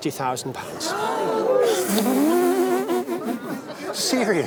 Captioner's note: gasps of amazement